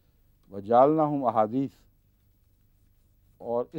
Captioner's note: Arabic